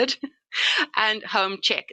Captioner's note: chuckles